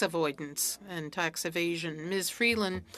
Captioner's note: speaking French